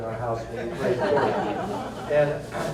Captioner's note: laughter